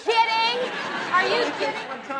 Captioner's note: audience laughs